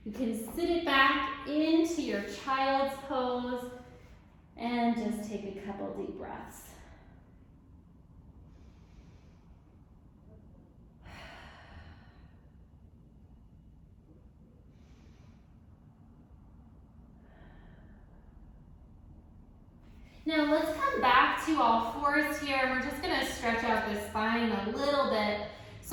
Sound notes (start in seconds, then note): 7.0 deep breaths